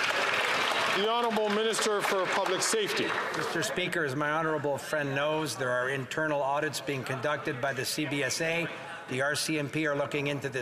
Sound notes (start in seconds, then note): 4.1 some Applause